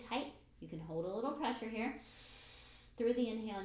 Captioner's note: breathes in